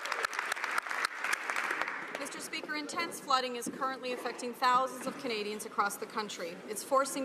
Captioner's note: some Applause